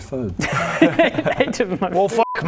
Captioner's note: shameless laughter